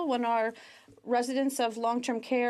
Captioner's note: speaking French